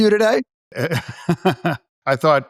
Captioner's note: laughter